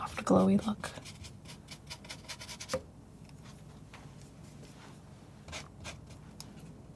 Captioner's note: silence